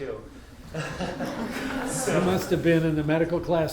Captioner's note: all laugh